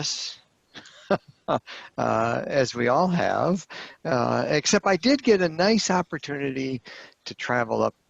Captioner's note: laughter